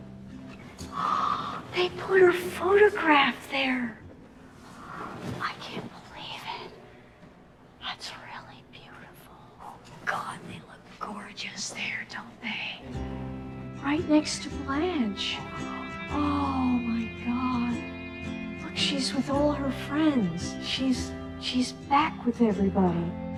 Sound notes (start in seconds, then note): 4.5 whispers